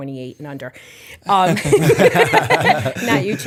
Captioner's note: chuckle